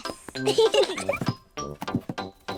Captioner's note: both giggle